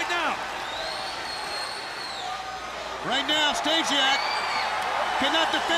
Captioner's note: crowd chatter